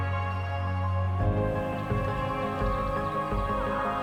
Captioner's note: birds chirping